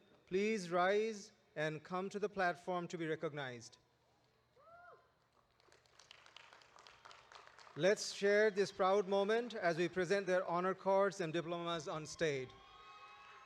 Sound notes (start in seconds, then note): 5.4 audience applauding